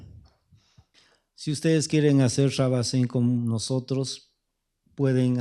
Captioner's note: speaking spanish